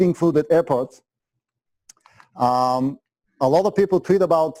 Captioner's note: pause